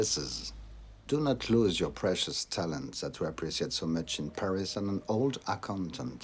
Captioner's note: french